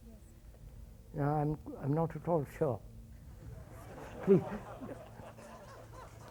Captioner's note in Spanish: Risas